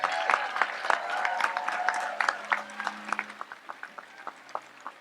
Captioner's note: audience applauds and cheers